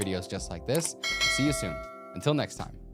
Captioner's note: bell dinging